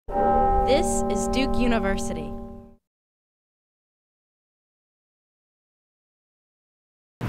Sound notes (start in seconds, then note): 0.1 bell tolling